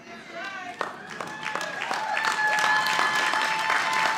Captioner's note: audience applauding